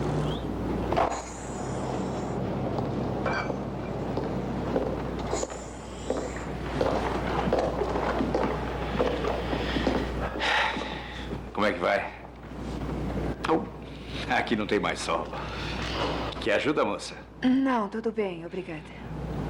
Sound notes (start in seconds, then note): 10.2 sighs